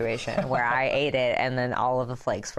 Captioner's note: laughter